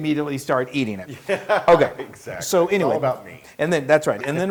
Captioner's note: laugh